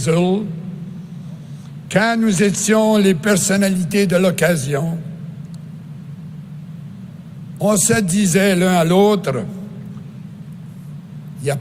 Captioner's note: speaking in French